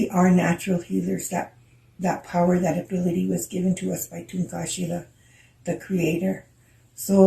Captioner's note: speaking in Lakota